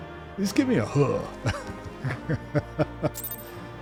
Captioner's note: laughs